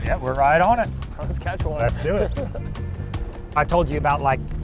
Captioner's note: chuckles